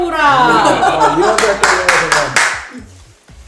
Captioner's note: hahahahahahaha